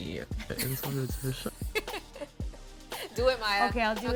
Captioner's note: laughter